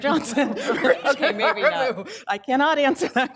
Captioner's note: laughs